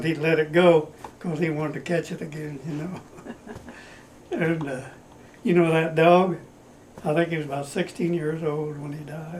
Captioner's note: laughter